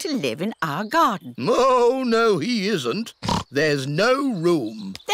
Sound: oinks

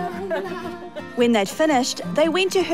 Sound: laughing

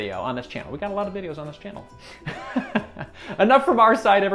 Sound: chuckles

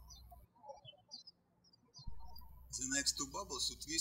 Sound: birds chirping

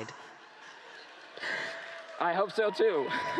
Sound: laughter

